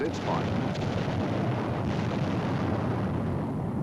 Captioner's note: booming